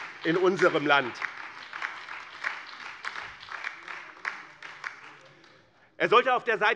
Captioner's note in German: Beifall bei dem BÜNDNIS 90/DIE GRÜNEN und der LINKEN